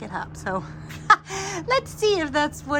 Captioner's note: laughs